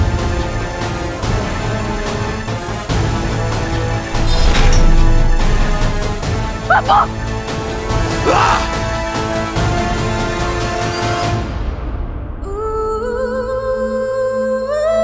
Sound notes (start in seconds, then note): 8.2 screams